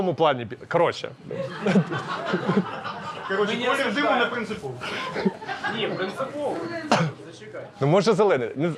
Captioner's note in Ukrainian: сміх